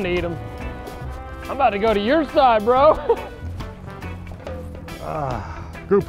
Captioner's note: chuckles